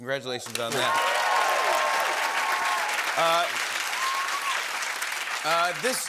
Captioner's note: cheers and applause